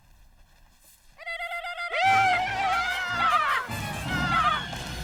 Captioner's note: hollering